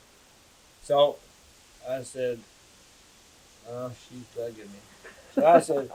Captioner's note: laughter